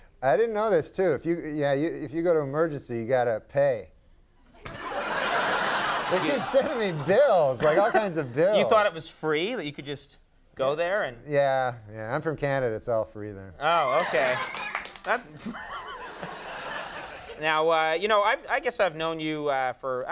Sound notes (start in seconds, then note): 4.6 audience laughs; 14.6 audience member whistles